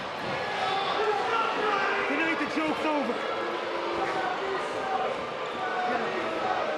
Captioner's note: booing